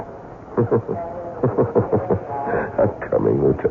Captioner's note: laughs